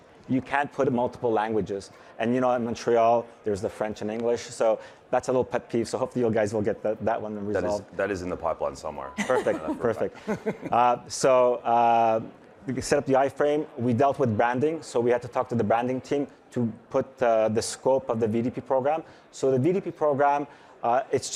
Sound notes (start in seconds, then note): 9.1 chuckling